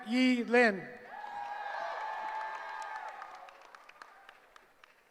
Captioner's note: cheering